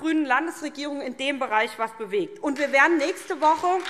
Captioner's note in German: Beifall SPD und vereinzelt DIE LINKE